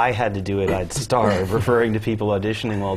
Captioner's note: laugh